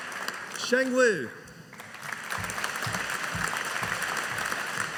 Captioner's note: audience applauding